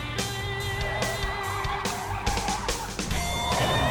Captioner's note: tires screech